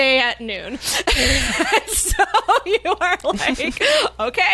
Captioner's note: laughs